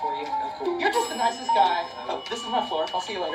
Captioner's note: elevator ding